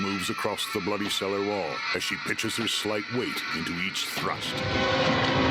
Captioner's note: eerie echoing; dramatic music